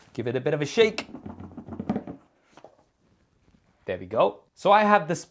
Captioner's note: box rattling